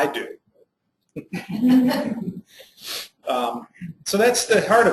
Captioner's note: laughs